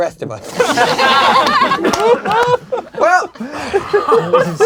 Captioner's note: crowd laughing